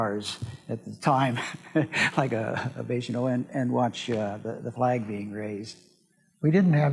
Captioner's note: laughs